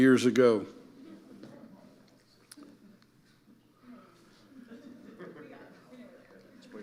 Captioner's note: audience murmuring and laughing